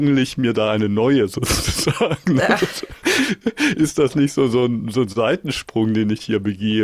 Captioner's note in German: gelächter; japst